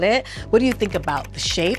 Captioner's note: computer keys clicking